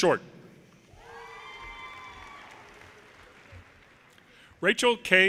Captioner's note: audience cheers and applause